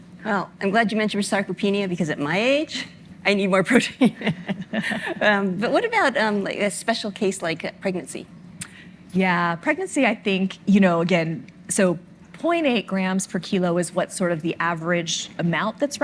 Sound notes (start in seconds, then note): 4.0 chuckles